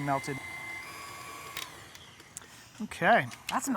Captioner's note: mixer whirring